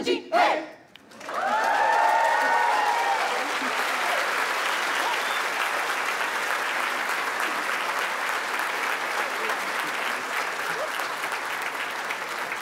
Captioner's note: cheering